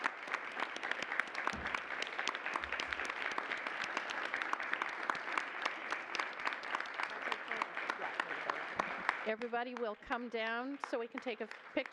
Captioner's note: applause